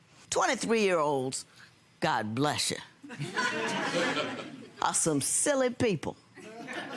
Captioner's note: audience laughing; audience laughing